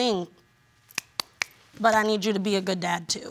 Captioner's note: claps